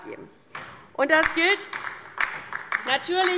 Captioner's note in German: Beifall bei der LINKEN